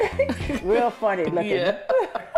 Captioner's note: laughs